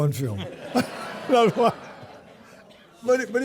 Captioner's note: audience laughing